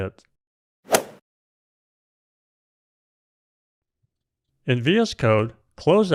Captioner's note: golf swing sound effect